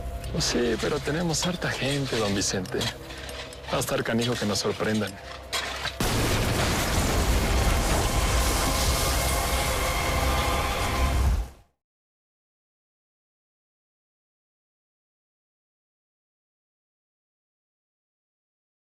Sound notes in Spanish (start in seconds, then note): 6.0 Explosión